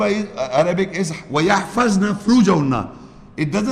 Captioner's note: Arabic